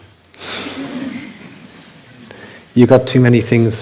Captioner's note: laughter